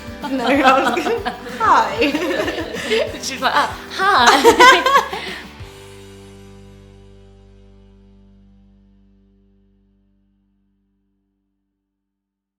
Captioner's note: laughs